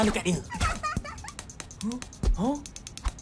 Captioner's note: Washy-Moshy giggles